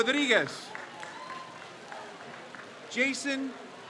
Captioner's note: crowd cheers